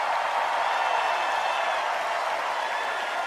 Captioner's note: applause